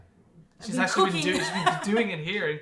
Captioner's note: laughs